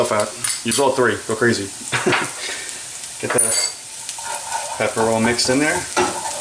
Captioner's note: chuckles